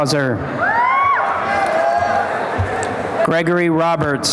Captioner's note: applause and cheering